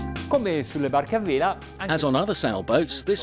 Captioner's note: speaking Italian